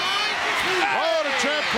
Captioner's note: audience cheering